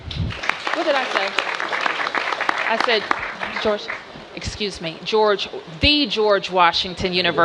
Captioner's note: applause